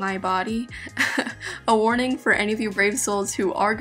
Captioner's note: laughing